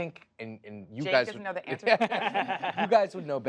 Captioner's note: laughter